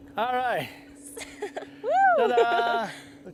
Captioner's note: laughter